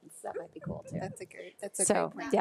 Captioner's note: trustee laughs